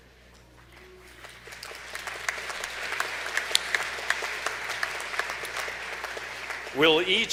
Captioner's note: applause